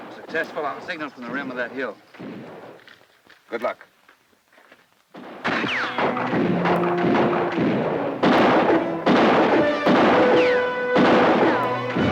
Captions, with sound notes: - If successful, I'll signal from the rim of that hill. - Good luck. (guns fire) (bullets ricochet)